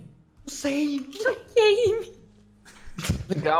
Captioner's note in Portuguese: risada